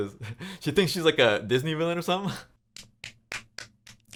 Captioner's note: laughs